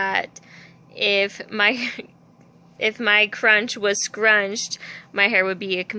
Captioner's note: laugh